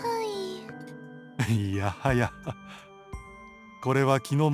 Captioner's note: bemused chuckle